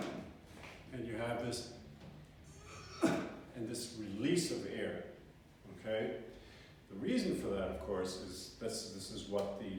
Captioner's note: grunt